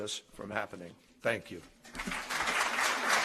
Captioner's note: applause